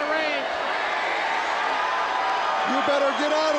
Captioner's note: crowd cheering